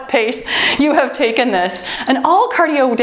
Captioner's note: timer beeps